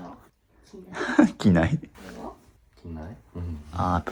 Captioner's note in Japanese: 笑い